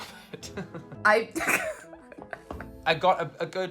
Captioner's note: laughs